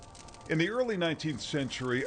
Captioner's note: fire crackling; soft gentle music